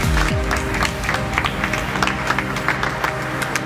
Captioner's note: applause